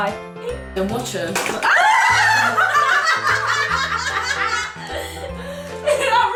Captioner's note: laughter